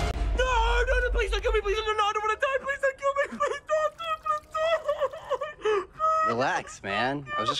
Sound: sobs

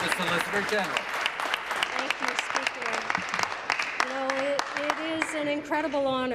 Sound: applause

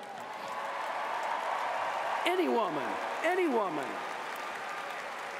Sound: cheers & applause

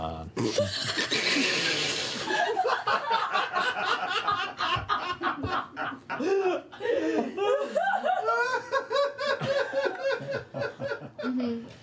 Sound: laughter

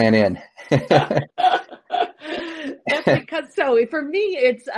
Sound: laughs

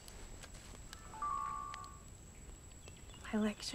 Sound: camera dinging

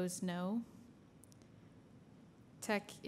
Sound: silence

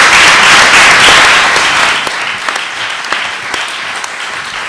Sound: applause

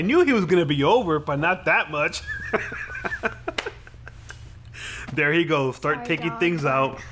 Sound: laughs

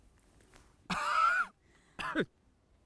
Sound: ERIC coughs

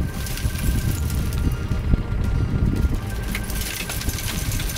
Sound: loose gravel clattering

